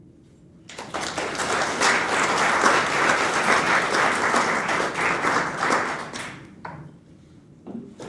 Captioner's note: applause